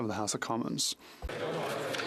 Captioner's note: speaking French